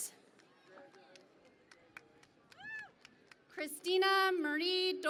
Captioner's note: cheering and Applause